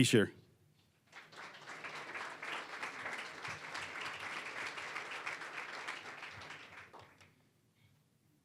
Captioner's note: applause